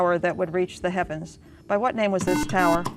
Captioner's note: beeping